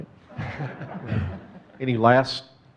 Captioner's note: audience chuckling